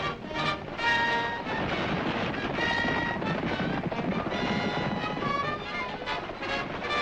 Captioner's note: hooves thundering; suspenseful music